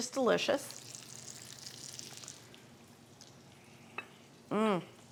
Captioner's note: meat sizzling